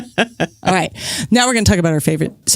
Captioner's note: laughs